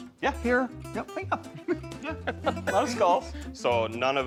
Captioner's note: chuckles